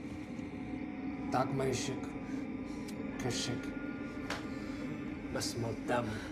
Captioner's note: Louis speaking in foreign language